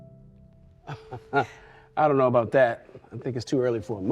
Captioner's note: laughing